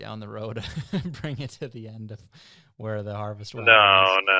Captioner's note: laughs